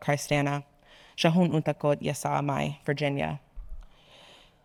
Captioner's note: speaking in foreign language